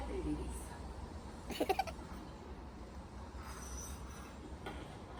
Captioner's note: feat. my giggles behind the TV